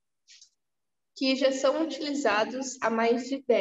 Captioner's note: speaking portuguese